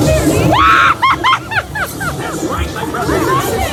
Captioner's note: screams and laughs